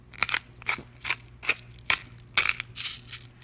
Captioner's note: pepper mill grinding peppercorns